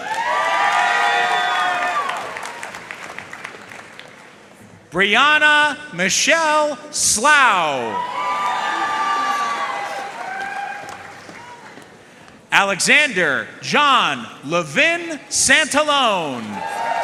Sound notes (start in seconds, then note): 0.0 audience cheering and applauding; 7.9 audience cheering and applauding; 16.2 audience cheering and applauding